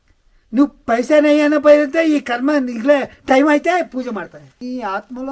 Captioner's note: speaking telugu